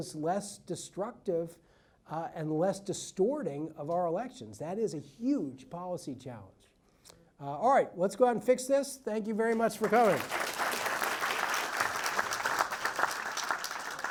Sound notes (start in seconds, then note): 9.6 audience applauds